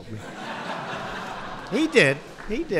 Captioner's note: laughter